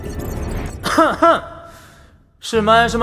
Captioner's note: cough